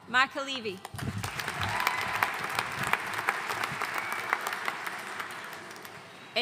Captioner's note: audience cheering and applauding